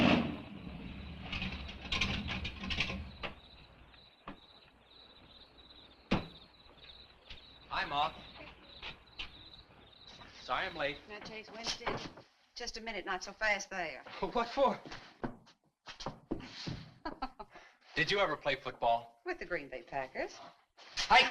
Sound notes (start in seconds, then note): 0.6 crickets chirping; 16.5 woman chuckles